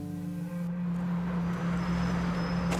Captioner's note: tense throbbing hum